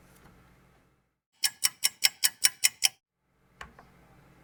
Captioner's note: ticking clock